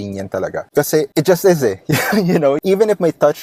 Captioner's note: laughs